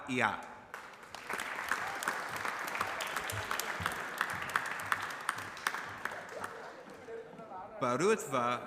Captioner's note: applause